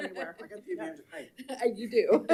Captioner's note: people chatter